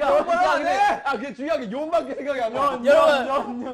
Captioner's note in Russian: смех